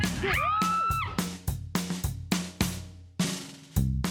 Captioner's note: girls screams